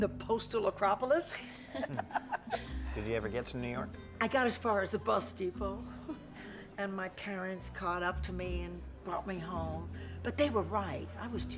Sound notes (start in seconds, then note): 1.4 she laughs; 4.1 chuckles